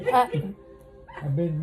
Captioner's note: laughs